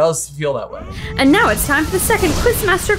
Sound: explosion noise

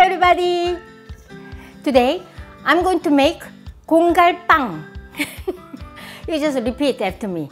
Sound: laughs

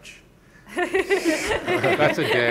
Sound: panelists laughing

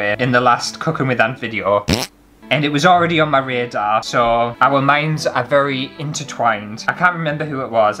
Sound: fart

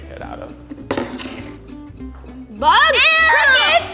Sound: bowl sliding across table

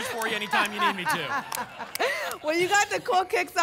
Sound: laughter

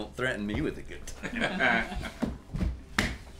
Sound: chuckles

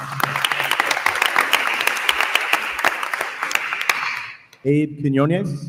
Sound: attendees applauding

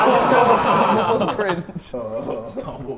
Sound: Sidemen laugh

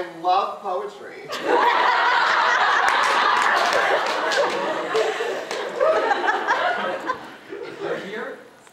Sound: audience laughter

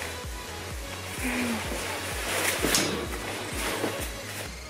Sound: shuffling

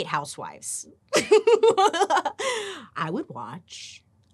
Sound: playfully giggles

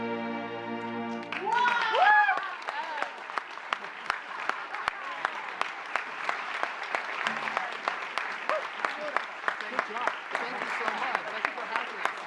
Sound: applause

